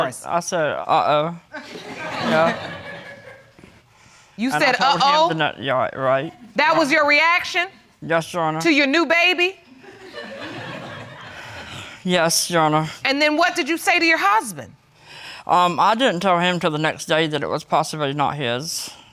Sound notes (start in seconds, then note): 1.6 audience chuckles; 9.8 audience laughs; 10.1 sighs